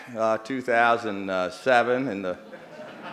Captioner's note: laughter